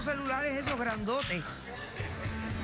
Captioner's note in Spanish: risas del público